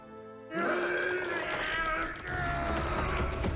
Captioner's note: dwarves grunting